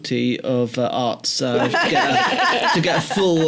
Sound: laughter

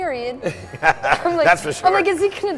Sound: laughter

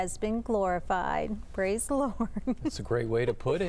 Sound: laughter

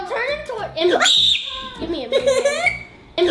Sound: screams

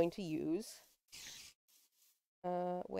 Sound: spider hisses

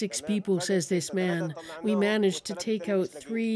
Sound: speaking alternate language

